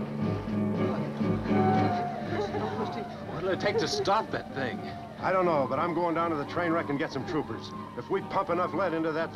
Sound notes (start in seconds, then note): 0.7 party goers chattering